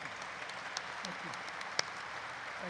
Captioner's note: audience applauds